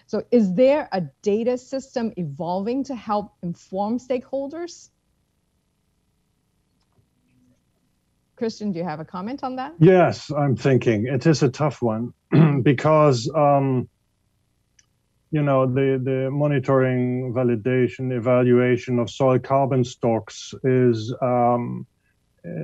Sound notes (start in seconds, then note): 12.3 cough